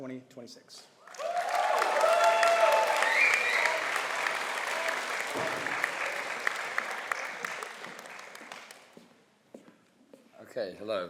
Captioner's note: applause